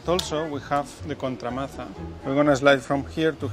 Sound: speaking in foreign language

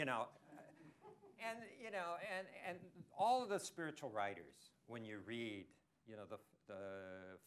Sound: laughter

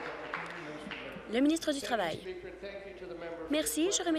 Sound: applause

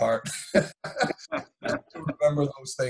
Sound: laughing

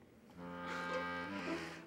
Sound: scoffs

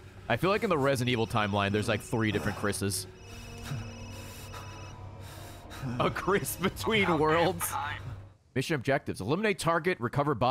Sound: laughs

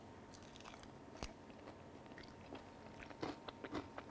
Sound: salad smacking

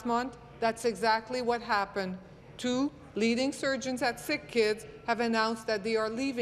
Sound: none

